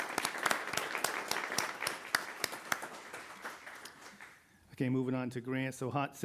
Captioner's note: applause